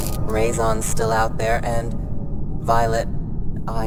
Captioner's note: none